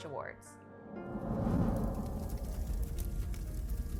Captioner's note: fire blazing